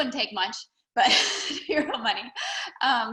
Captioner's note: laughing